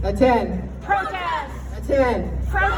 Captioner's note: crowd